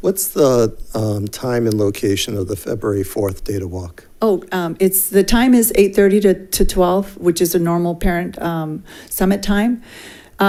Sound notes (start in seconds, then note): none